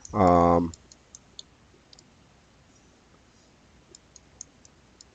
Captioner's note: mouse clicking